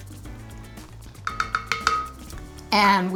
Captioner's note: cup tapping